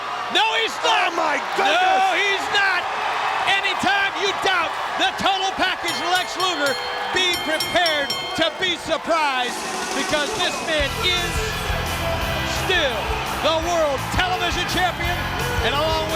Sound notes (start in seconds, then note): 3.2 audience cheers; 6.5 bell rings